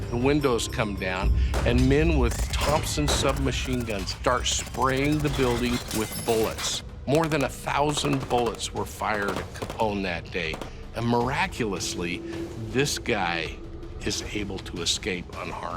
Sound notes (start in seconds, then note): 1.5 heavy gunfire